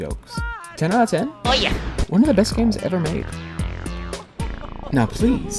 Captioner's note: Luigi Sounds